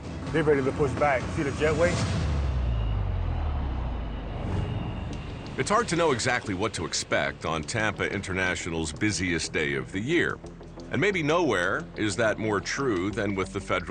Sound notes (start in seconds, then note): 2.3 tram sound